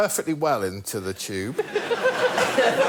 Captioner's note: laughter